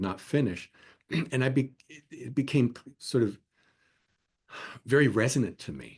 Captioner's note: cough